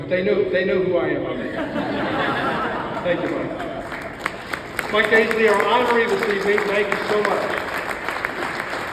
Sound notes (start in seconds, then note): 1.4 audience laughs